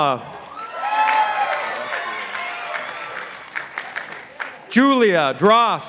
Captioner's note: participants applauding